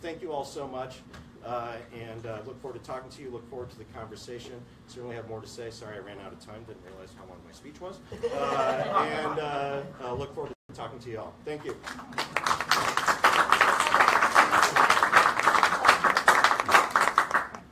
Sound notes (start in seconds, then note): 8.1 laughter; 11.6 applause